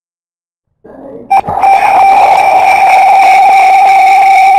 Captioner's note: screeching sound; schreeching sound